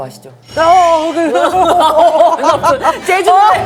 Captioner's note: shocked loudly